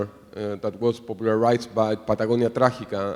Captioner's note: speaking foreign language